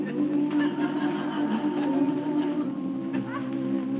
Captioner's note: audience chuckling